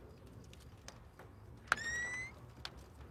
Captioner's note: whistles